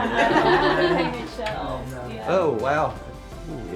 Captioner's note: group laughs and chatters